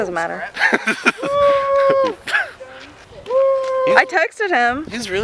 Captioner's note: laughs; shrieks